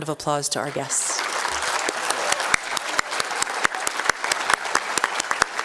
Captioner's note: applause